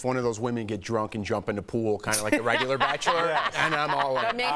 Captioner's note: laughter